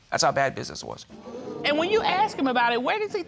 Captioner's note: audience exclaims